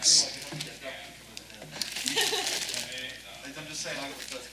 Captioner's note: participants chatting indistinctly